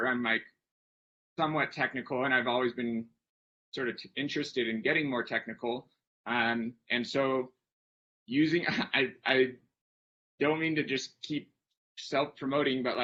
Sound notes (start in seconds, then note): 8.6 chuckles